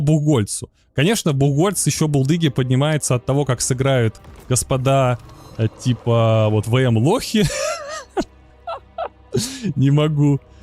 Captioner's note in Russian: смех